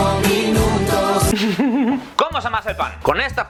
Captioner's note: giggles